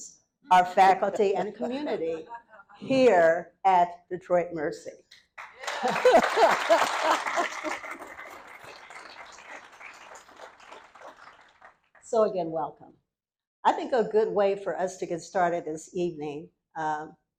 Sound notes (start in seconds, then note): 5.3 applause; 5.6 laughter